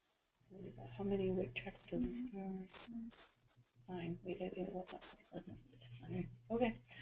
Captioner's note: speaking off microphone